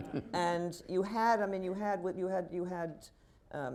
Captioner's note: laughter